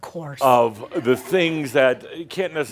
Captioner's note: some chuckles